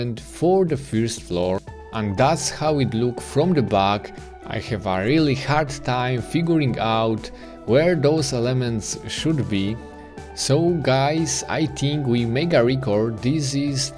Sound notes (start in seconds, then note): none